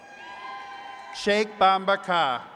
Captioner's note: attendees cheering